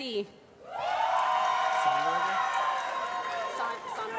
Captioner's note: applause